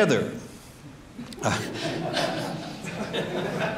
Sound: laughs

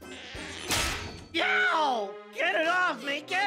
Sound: upbeat music; clamp bangs

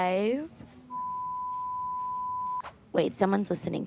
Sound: beeping

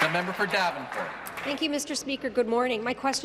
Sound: applause

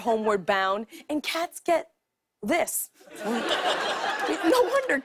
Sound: laughter

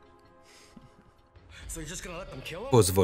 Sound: laughs

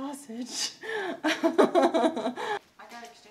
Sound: laughing

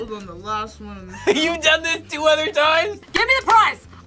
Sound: laughs

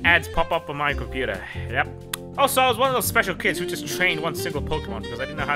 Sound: tonge smack noise

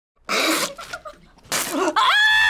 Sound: laughs

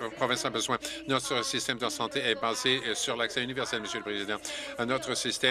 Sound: applause

